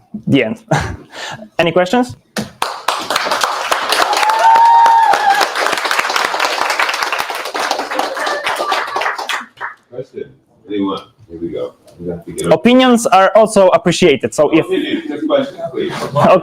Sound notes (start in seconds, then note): 2.4 audience clapping; 3.7 audience cheering; 15.8 audience laughs